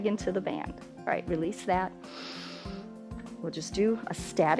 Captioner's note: inhales